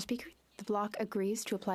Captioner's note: speaking French